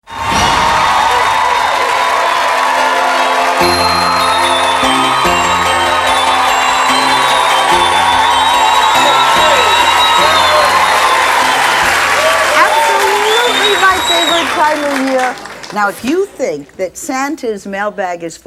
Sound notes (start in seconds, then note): 0.0 audience cheering; 2.5 holiday music